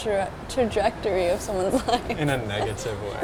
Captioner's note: laughs